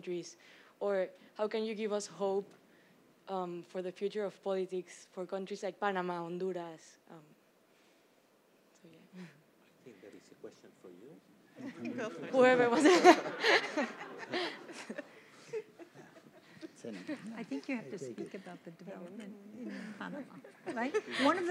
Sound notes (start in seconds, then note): 11.6 group laughs; 11.6 overlapping chatter